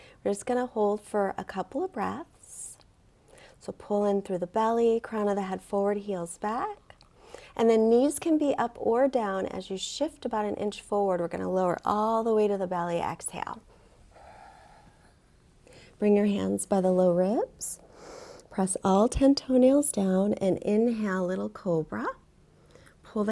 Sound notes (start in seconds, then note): 13.7 exhales